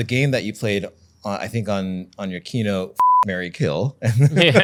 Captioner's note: beep